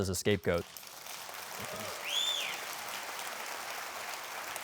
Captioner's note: crowd applauds